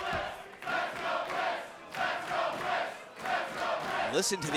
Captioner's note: fans chanting